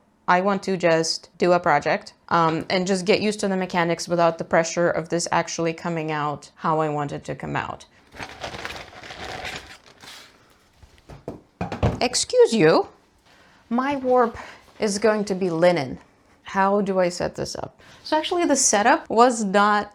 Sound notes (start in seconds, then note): 8.1 off camera rummaging; 11.1 yarn clattering